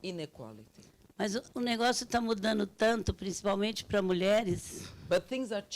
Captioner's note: speaking Portuguese